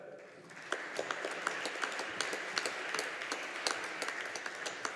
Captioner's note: audience applauding